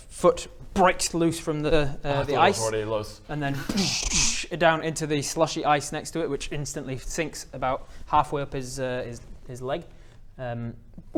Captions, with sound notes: foot breaks loose from the ice Ah, I thought he was already loose and then *boosch-dsch* down into the slushy ice next to it which instantly sinks about halfway up his leg